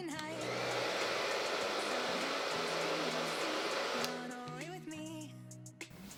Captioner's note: hair dryer roaring